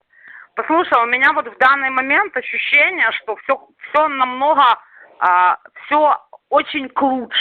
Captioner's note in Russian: говорят по-русски